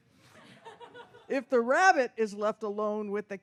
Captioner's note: audience laughs